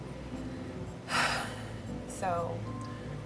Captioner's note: deep sigh